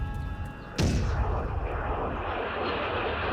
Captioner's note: jets roar